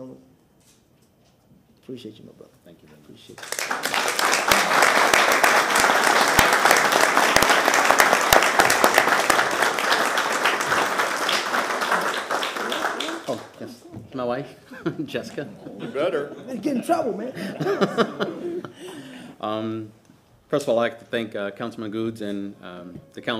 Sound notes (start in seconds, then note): 11.3 applause